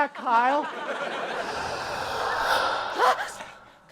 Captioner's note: haunting sounds; screams